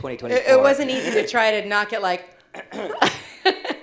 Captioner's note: laughs